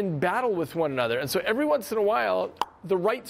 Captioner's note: pops tongue